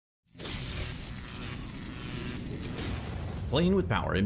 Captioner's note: neon lights sizzling